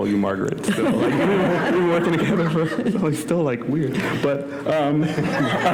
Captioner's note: laughter